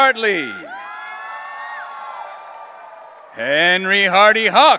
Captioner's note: audience cheering